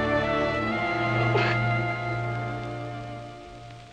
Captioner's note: sobbing